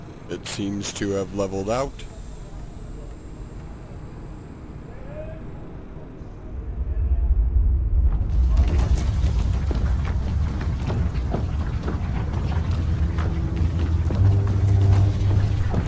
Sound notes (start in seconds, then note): 7.4 loud rumbling; 10.2 rocks tumbling down; 13.4 metal groaning